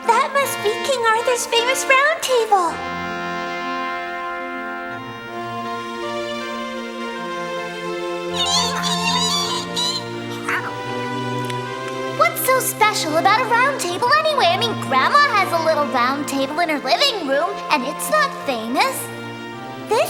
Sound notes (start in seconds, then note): 5.6 majestic music; 10.3 rats squeaking